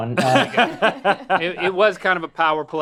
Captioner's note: laughing